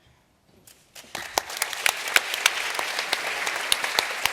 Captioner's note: applause